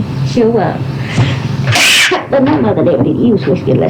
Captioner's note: cough